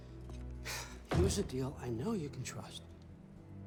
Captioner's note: sigh